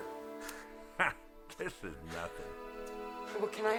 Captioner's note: scoffs